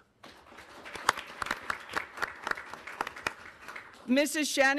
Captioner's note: audience applauding